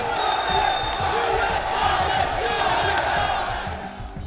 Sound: audience chanting

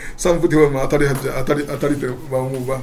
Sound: walking

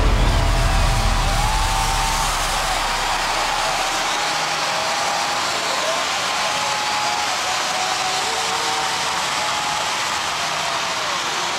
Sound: air cannons exploding; crowd cheering

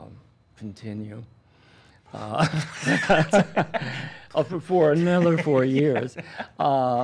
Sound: laughing

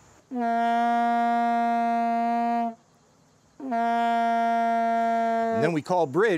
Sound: horn blows twice

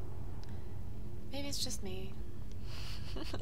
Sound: laughs

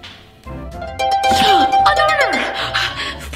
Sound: ding

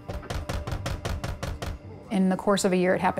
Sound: loud knocking

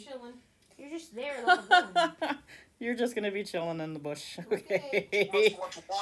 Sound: laughter

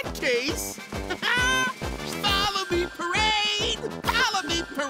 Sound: laughs

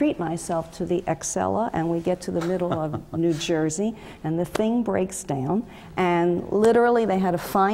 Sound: laugh

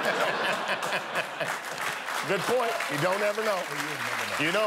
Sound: laughter

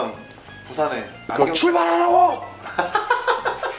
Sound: vocal mimicry

